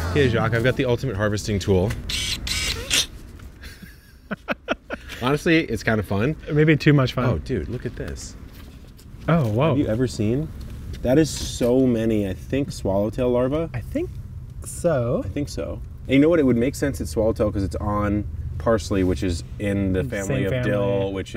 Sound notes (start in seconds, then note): 2.0 tool whirs; 3.6 laughs